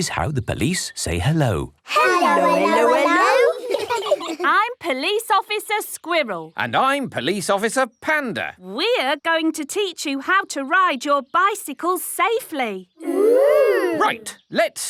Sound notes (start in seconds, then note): 1.9 children giggle